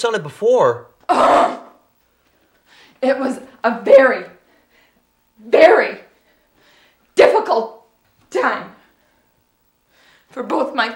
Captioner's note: groans